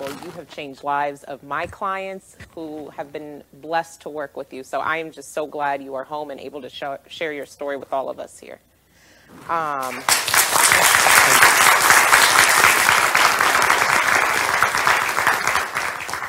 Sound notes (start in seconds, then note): 9.8 crowd clapping